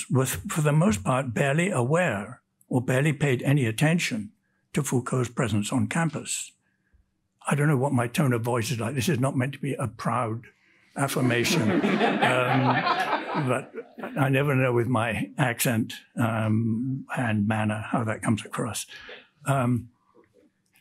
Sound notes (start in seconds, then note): 11.1 audience laughs; 11.1 panelists laugh